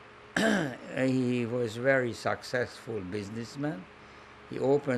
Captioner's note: clears throat